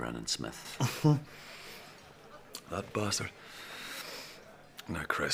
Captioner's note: coughs